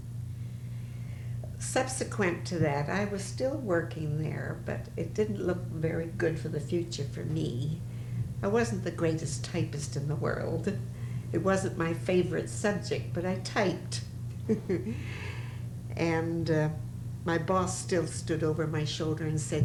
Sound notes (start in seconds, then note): 14.4 laughs